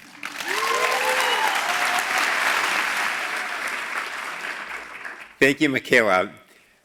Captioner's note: applause